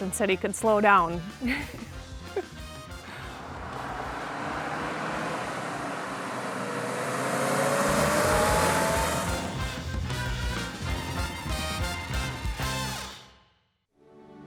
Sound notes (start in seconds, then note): 1.4 laughing; 2.8 car whirring